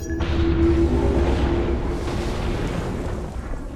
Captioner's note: ship whooshing